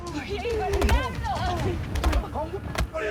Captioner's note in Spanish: Golpes; Exclamaciones